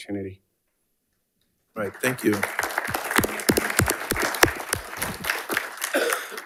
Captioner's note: audience applauding